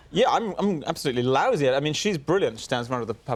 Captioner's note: none